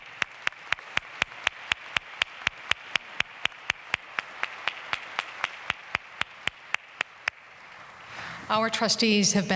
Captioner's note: applause